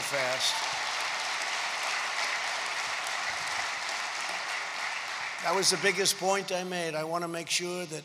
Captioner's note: applause